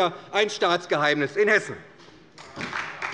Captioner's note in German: Beifall bei der SPD